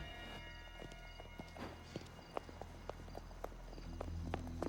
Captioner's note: foreboding music; footsteps tapping